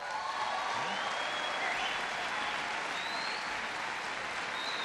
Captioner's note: applause